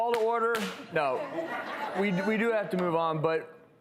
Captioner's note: audience laughing